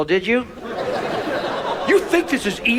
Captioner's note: audience laughs